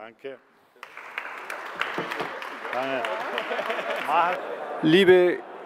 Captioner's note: applause